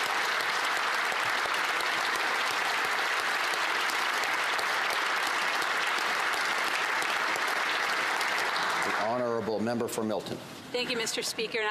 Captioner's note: applause